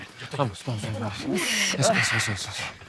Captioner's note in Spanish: Quejidos